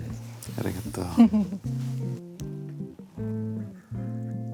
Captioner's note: chuckles; gentle music